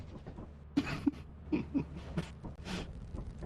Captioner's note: laughing